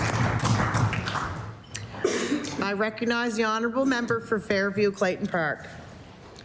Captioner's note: applause